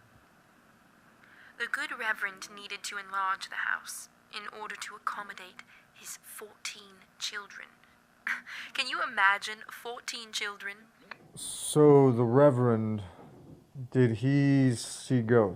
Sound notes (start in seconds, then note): 8.8 laughs